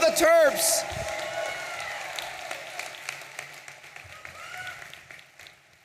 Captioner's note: audience applauding and cheering